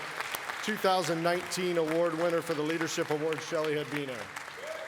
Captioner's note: applause